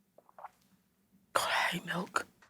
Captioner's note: swallows